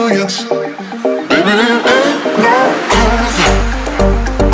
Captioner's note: logo boinging